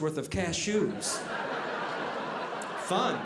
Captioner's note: audience laughing